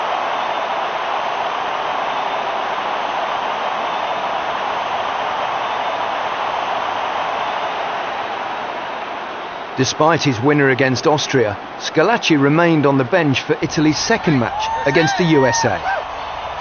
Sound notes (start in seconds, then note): 0.5 crowd cheering